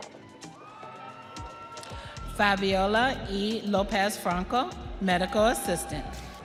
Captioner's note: audience cheering